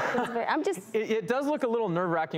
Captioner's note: laughs